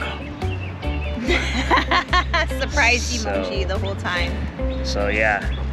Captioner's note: laughs